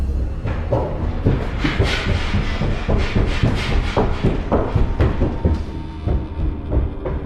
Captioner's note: running steps